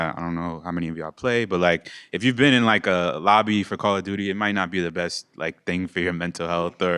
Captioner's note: none